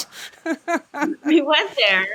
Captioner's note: laughs